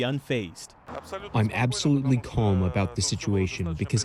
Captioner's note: through translator